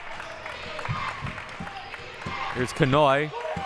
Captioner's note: audience applauding and yelling; clapping